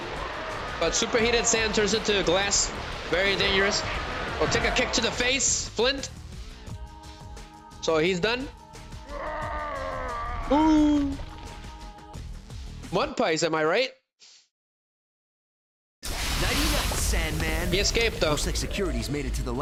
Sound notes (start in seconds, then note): 9.0 groaning